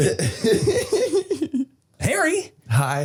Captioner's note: Harry laughing